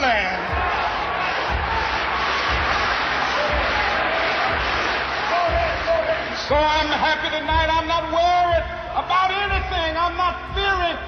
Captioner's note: applause